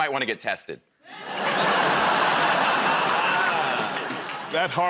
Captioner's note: laughter